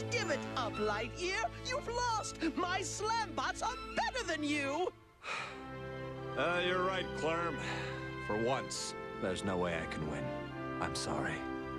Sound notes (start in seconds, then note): 5.2 sighs